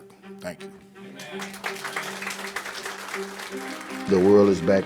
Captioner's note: applauds